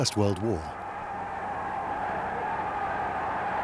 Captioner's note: crowd cheering